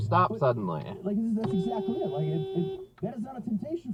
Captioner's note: beeeeeep!!!